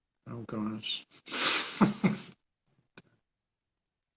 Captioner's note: laughs